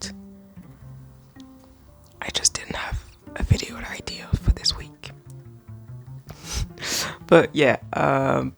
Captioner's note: whispering